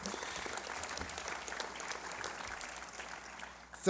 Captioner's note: applause